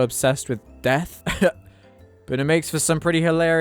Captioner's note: chuckle